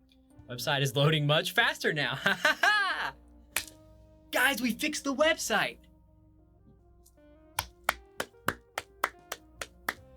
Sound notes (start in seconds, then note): 2.2 laughs; 7.6 claps